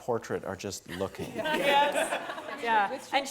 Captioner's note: laugh